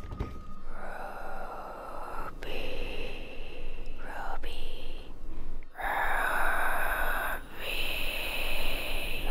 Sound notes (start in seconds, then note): 1.5 speaking in a foreign language; 4.0 whispering